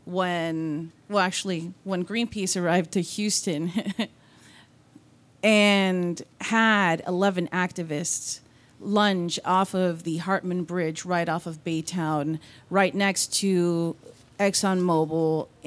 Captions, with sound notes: when Greenpeace arrived to Houston. (laughs) And had 11, activists lunch off of the Hartman Bridge right off of Baytown right next to Exxon Mobil